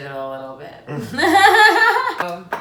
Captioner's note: laughs at possible incompetence